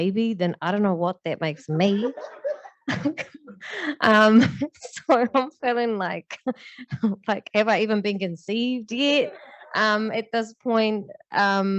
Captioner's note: laughter